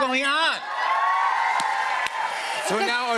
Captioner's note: cheers and applause